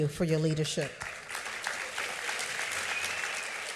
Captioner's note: applause